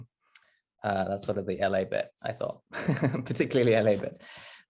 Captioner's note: laughs